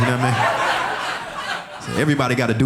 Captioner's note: audience laughing